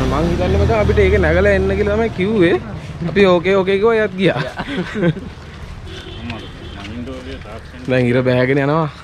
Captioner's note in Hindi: हंसते हुए